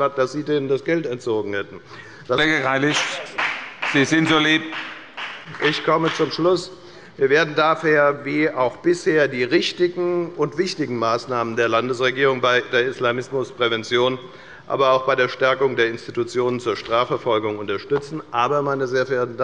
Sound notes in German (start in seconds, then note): 2.5 Beifall bei der FDP